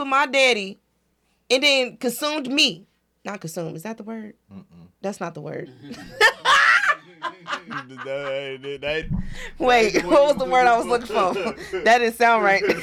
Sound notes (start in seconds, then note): 8.0 laughing